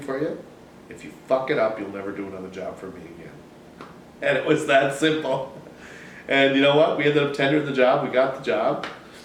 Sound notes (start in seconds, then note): 5.0 laughs